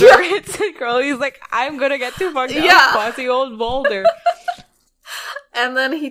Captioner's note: laughing; laughs; laughing